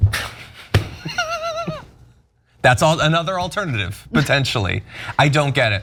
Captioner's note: laugh